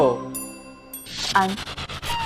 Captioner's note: ding